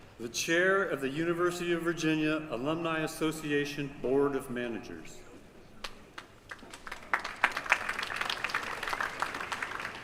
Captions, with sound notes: The Chair of the University of Virginia Alumni Association Board of Manager. [APPLAUSE]